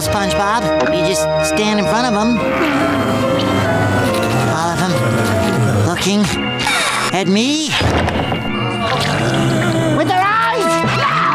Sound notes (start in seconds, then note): 2.1 moaning; 8.2 shrieking